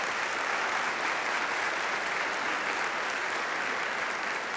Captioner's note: audience applauding